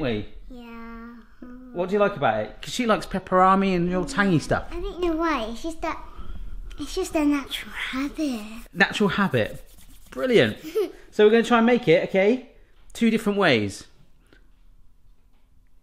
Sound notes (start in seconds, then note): 0.5 murmurs; 8.9 hands rubbing; 10.5 giggles